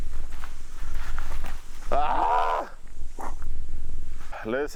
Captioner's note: screams